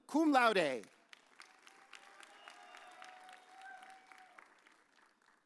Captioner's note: audience cheers